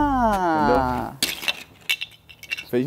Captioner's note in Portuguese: som de lego caindo